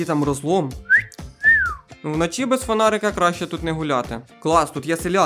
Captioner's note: whistle